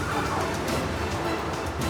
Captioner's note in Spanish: Frenazo y choque